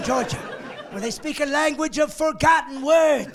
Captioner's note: laughing